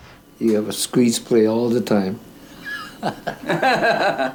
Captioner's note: laughing